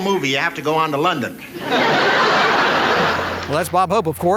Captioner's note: laughing